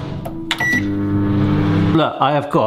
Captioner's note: microwave noise